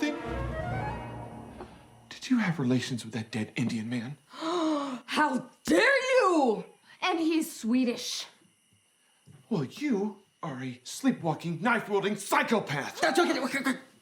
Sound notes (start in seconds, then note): 0.0 brief flute music; 4.4 Susan gasps